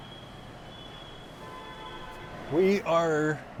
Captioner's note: traffic screeching; horn honking; traffic grinding